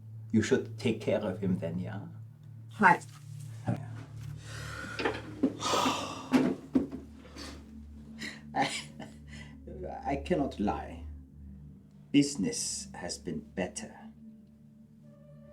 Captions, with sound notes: You should take care of him then. Yeah. Hi. (sighs) I… I cannot lie. Business has been better.